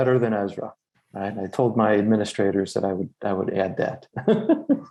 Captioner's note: laughs